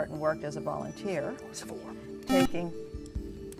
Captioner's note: buzzer